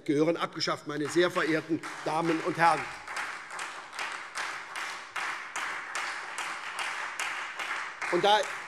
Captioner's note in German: Beifall SPD und Freie Demokraten